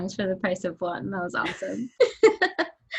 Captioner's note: laughs